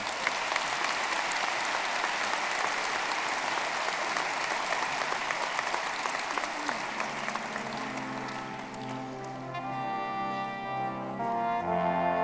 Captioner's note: applause